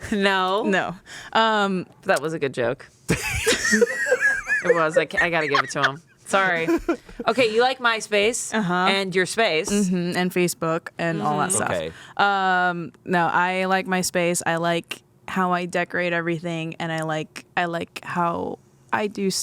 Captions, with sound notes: No. - No. - That was a good joke. (everyone laughs) It was. I gotta give it to him. Sorry. Okay, you like MySpace and your space. - And Facebook and all that stuff. No, I like my space. I like how I decorate everything and I like how I do stuff.